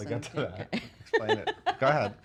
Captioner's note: laughing